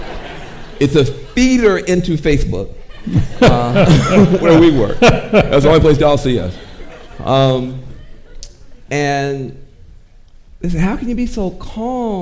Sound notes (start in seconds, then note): 0.2 audience laughing; 3.0 chuckles